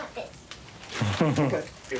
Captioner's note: laughing